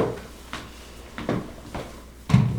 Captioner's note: shuffling